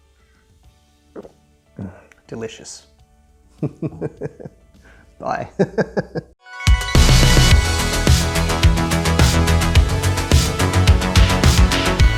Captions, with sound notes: Delicious (laughs). Bye (laughs). (bright upbeat music)